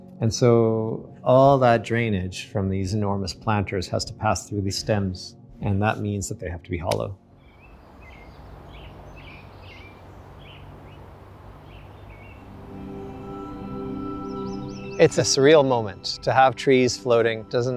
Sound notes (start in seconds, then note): 9.0 birds chirping; 12.9 ethereal music